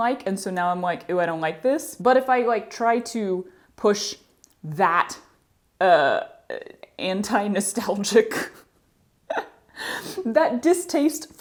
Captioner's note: laughter